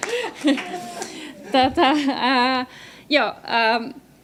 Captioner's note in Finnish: naurua